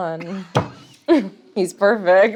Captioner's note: laughs